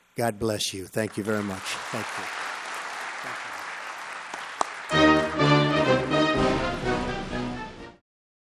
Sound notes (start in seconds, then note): 3.1 applause